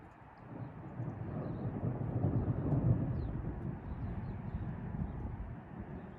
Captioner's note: distant traffic noise, thunder and skylark singing